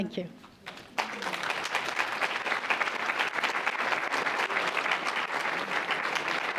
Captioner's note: applause